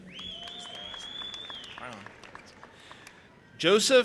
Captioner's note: audience applauding and cheering